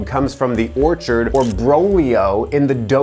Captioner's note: speaking in foreign language